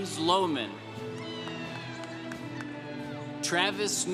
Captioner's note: congregation cheering